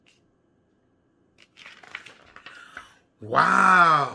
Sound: paper flipping

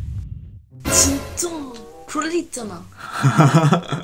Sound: Korean

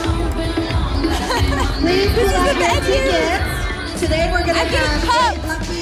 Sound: laughs

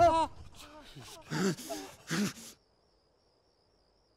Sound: gasps

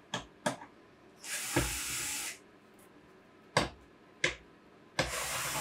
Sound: screwdriver whirring

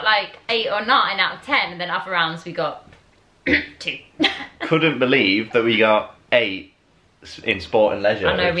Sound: coughs

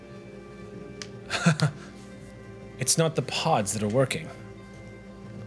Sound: laughs

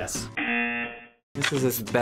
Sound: buzzer rings

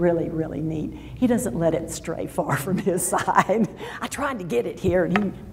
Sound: laughs

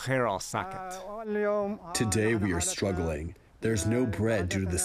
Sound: through translator

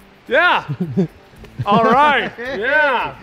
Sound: laughs

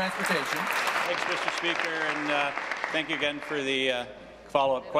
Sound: applause

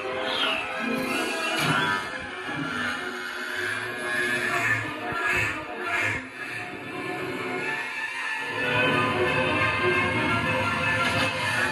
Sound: aeroplane whirring

